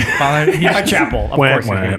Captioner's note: group laughs